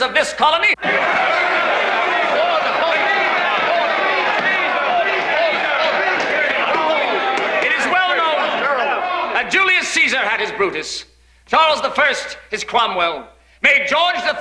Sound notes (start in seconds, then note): 6.2 Aplausos